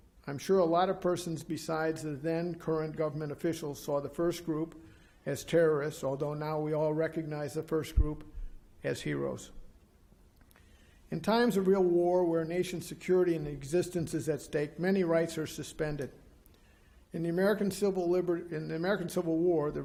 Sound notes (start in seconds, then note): none